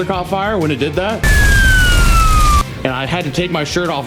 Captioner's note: flames roar; siren blares